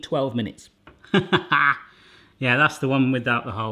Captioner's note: laughing